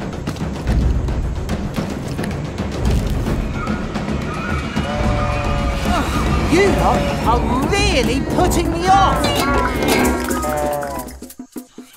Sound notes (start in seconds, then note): 4.3 cow moos